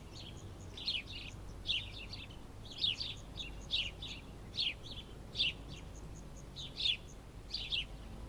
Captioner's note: birds singing